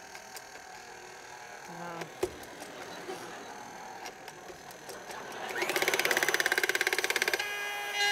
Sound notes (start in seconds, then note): 2.0 whirring